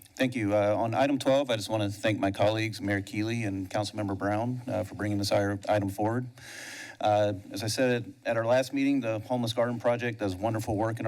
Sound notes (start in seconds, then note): 6.3 inhales